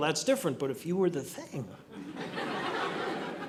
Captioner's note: audience laughing